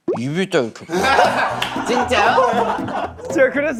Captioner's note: laughing